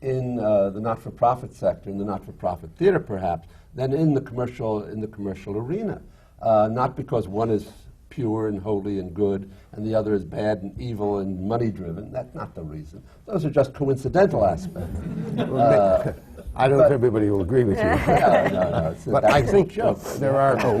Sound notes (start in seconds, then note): 14.6 laughter